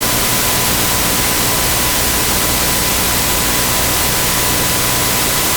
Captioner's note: high-pitched audio static